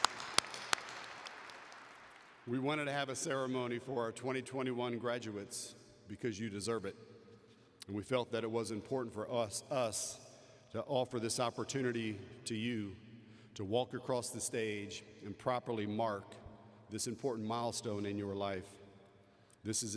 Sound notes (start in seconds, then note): 0.0 applause